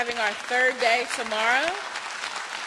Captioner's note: applause